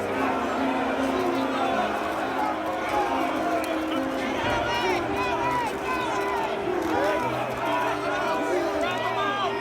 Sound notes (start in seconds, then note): 2.2 crowd yelling, fighting